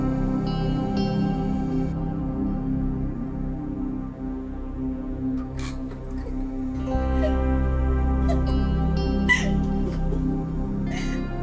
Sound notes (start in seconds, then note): 8.2 giggling